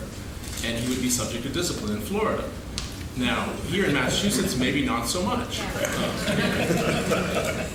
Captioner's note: laughing